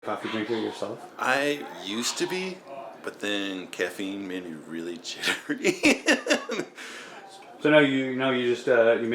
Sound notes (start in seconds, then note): 6.8 laughs